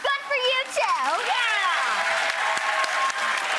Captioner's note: audience cheering and clapping